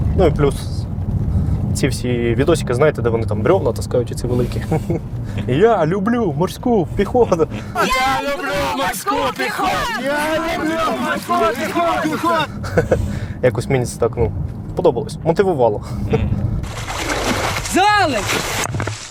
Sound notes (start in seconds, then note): 5.4 chants; 7.7 all chant